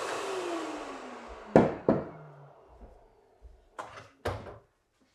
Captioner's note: wood thudding